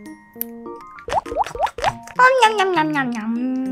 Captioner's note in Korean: 토도도독; 냠냠냠